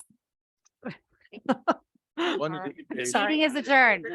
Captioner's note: person laughing